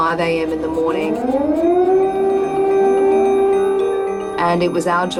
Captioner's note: air-raid siren blares